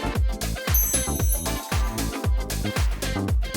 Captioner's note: sparkly sound; upbeat music